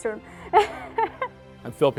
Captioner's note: laughter